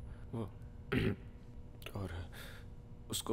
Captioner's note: Clears throat